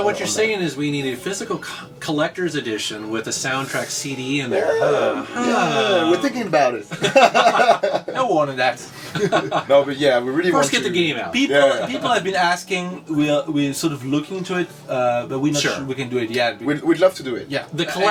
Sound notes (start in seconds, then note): 7.9 laugh; 9.1 all laugh